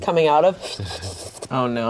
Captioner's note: sips